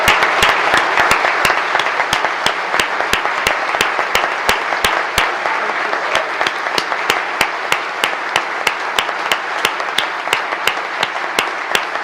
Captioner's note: applause